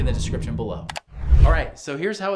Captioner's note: computer mouse clicking; air whooshing